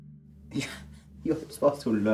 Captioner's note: laughs